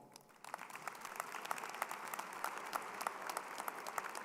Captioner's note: crowd applauding